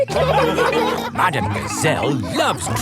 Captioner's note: laughing